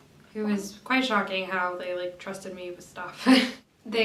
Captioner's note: chuckles